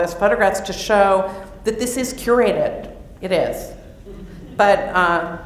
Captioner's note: laughter